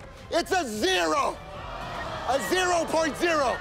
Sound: crowd groans

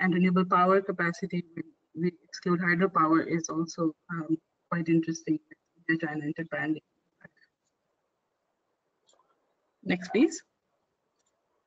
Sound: audio static

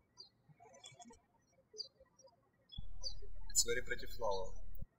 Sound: birds chirping

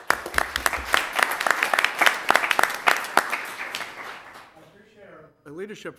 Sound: applause

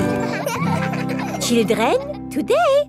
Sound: children laughing

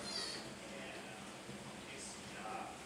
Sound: otter crying

